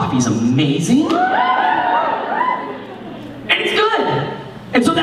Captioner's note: cheering